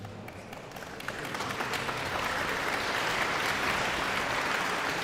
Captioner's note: audience applauding